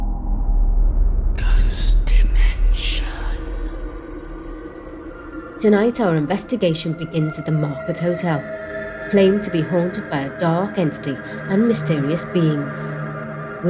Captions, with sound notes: - [Ghostly Voice] Ghost Dimension. Tonight our investigation begins at the Market Hotel. Claimed to be haunted by a dark entity and mysterious beings.